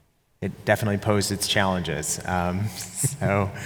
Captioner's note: chuckles